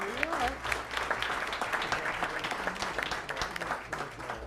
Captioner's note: applause